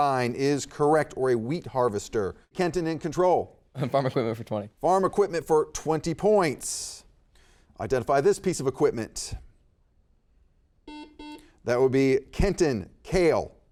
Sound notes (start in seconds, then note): 10.8 buzzer beeping